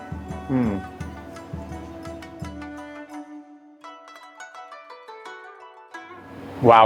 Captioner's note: inspiring music; savoring